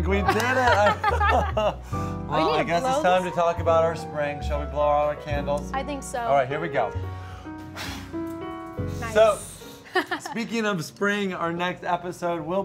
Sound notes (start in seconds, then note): 0.2 laugher; 7.6 big rush of air; 9.9 laughs